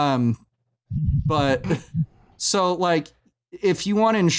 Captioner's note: muffled laughter